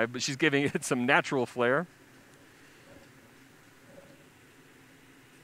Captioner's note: pause